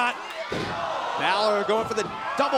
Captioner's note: crowd cheering